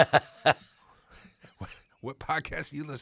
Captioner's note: laughing